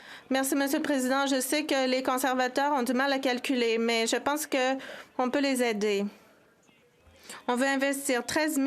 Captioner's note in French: voix de l'interprète